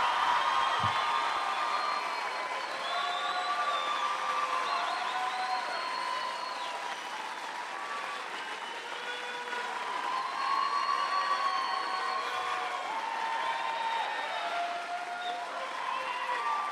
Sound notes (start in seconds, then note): 5.5 cheers